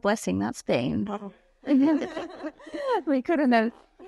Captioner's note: laughing